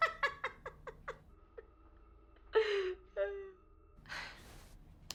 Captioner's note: laughing